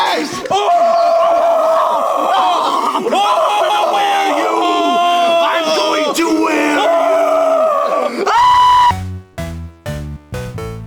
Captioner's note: yelling